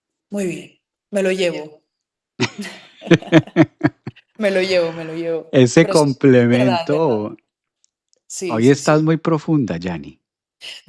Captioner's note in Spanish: risas